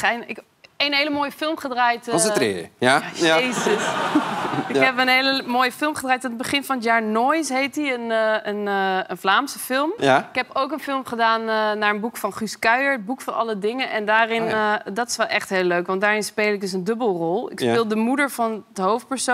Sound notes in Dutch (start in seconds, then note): 3.1 gelach